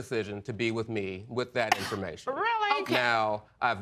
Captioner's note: scoffs